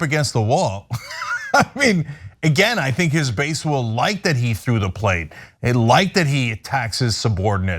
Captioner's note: laugh